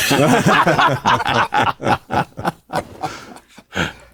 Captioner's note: panelists laughing